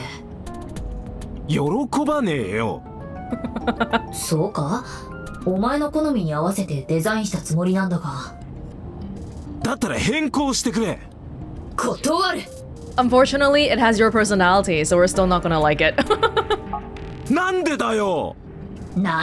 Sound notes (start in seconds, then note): 3.3 chuckles; 15.9 chuckles